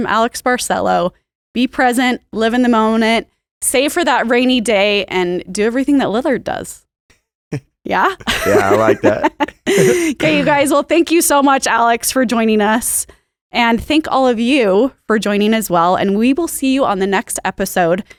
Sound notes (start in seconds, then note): 8.0 both laugh